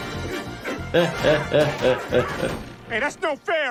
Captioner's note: chuckling